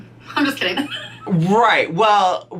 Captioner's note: laughs